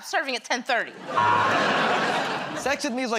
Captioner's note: buzzer